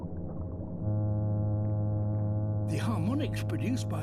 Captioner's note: droning hum